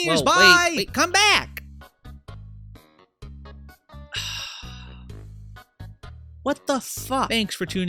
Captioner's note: sighs